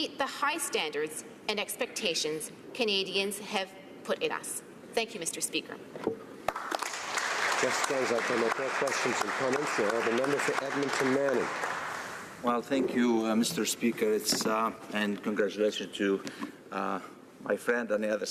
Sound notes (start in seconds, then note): 11.8 applause; 12.7 speaking French